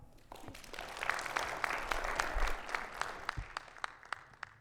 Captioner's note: audience applauding